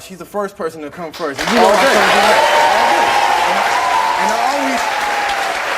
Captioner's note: applause drowns out speakers